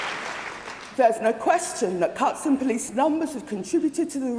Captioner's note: applause